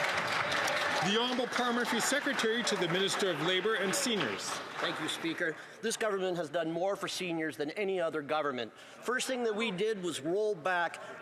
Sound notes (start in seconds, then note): 4.7 some Applause